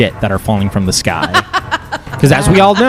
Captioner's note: laughs